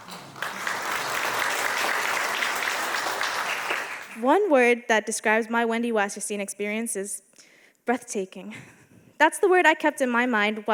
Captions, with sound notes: (audience applauding) One word that describes my Wendy Wasserstein experience is breathtaking. That's the word I kept in my mind